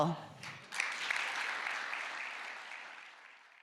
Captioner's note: applause